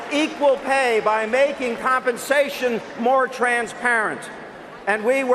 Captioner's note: cheers and applause